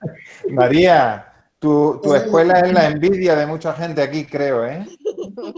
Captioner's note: laughs; laughter